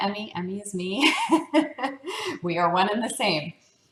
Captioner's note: laugh